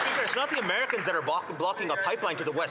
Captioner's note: some Applause